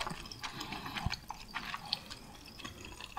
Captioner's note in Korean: 뇸뇸뇸